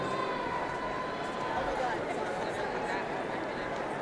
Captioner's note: crowd chatting